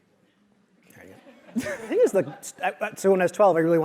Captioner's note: laugh